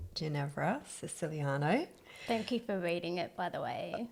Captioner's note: laugh